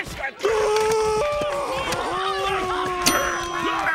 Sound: screaming

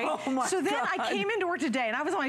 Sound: laughter

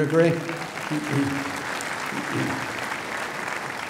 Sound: applause

